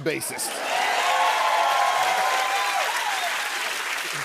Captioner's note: cheers and applause